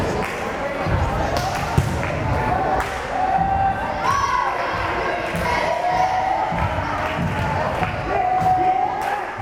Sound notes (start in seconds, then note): 4.6 crowd cheering